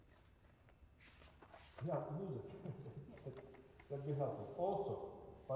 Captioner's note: laughter